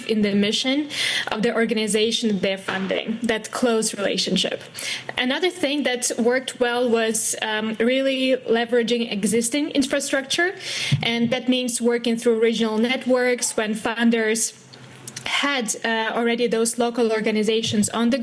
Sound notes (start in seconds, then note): none